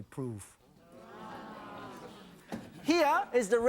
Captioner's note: audience wows